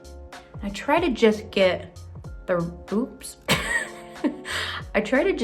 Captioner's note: laughs